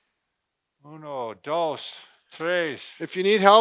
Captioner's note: speaking in foreign language